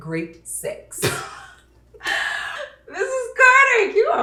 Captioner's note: Opal laughing